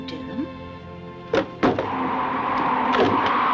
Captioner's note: door opens